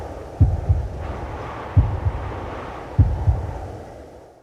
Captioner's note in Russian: биение сердца